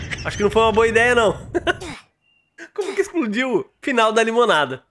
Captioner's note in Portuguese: risos